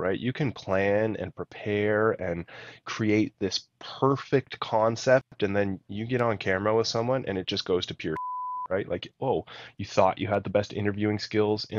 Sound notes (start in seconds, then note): 8.1 beep